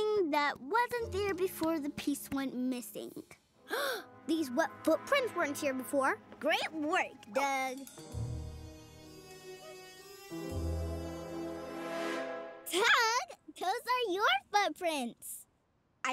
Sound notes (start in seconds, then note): 3.6 gasp; 8.7 mystery music